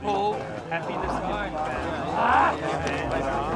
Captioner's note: groans